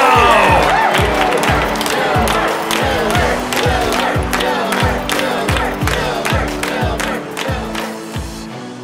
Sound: crowd chanting "Filbert! Filbert"

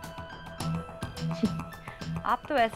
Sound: chuckle

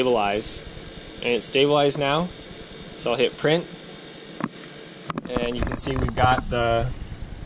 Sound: static output

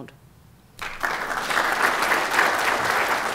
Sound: applause

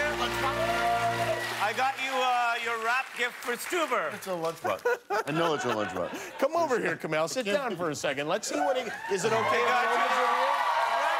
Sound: cheers and applause

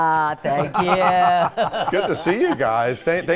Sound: all laugh

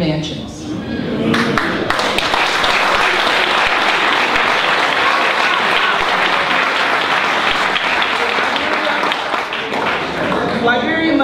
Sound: applause

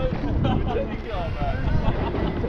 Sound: laughs

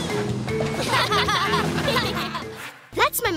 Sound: laughing

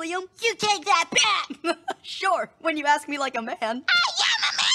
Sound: giggles

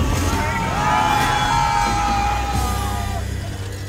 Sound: people screaming

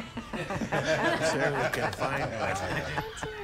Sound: laughter

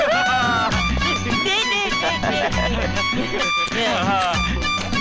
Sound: laughs

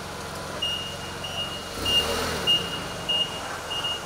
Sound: beeping

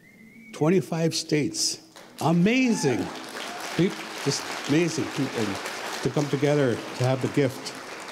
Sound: cheers

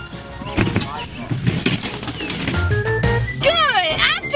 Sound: supplies clattering

